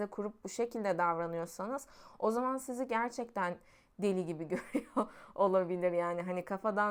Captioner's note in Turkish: kahkaha